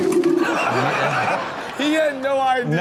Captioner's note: audience laughs; man falls